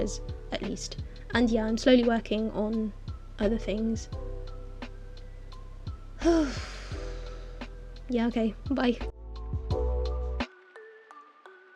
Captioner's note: big ol' sigh